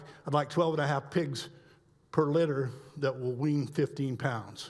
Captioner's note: none